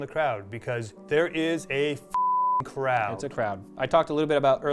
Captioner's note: beep